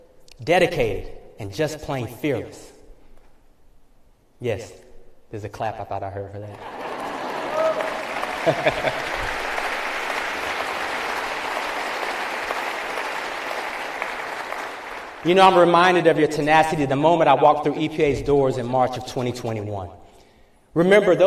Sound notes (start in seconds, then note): 8.2 laughter; 8.4 applause